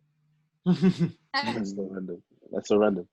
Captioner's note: laughter